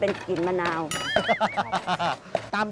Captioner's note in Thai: เสียงหัวเราะ